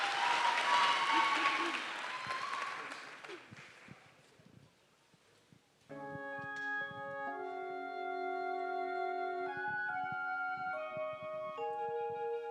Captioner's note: cheering and applause